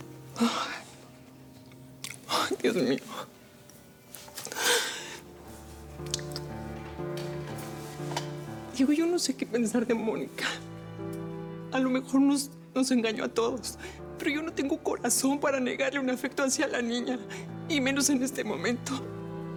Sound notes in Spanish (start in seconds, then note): 2.1 exhala; 4.5 solloza